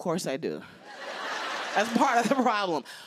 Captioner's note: laughter